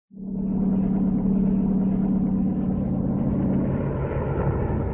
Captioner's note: helicopter rumbling